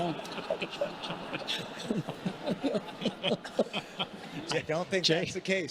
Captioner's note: congregation laughing